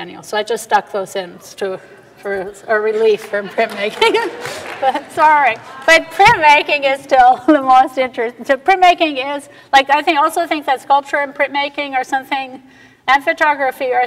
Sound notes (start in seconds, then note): 3.1 audience laughter & applause; 3.2 laughs